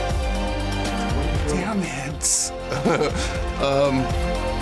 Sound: chuckles

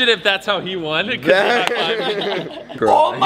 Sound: laughter

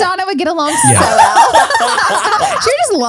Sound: everyone laughs

